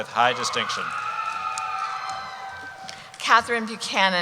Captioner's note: cheering